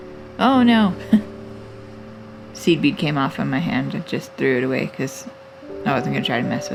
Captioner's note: laugh